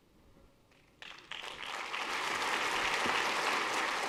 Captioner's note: applause